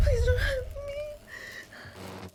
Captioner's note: suspenseful; gasps